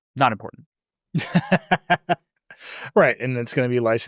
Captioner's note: laughs